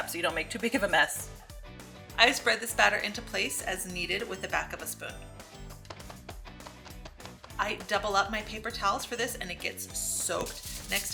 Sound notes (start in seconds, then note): 5.8 tapping